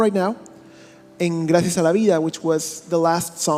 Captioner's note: speaking in a foreign language